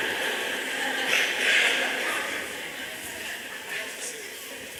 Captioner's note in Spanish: Risas